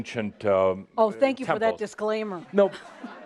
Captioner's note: laughter